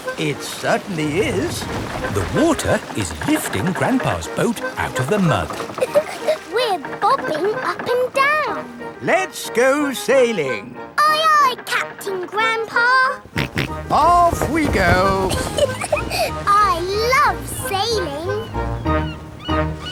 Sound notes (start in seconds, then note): 4.4 chuckles; 13.3 snorts; 14.3 giggles